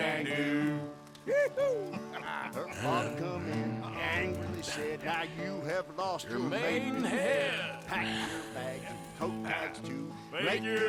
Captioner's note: laughs